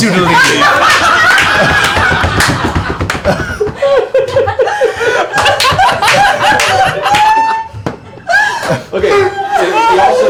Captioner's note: laughter